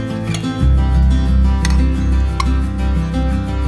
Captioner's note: bursting tomatoes